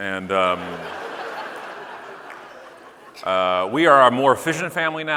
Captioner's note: audience laughing